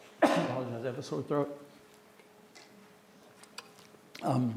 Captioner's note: coughs